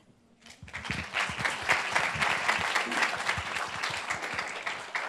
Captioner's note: group applauds